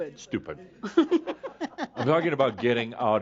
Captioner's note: giggles